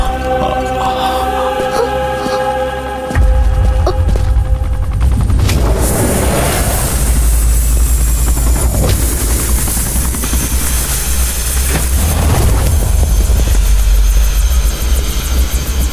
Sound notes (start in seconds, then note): 3.0 helicopter whirring